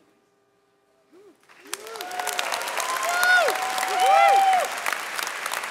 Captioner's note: audience cheering and clapping